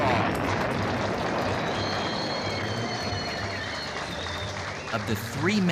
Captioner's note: applause and whistling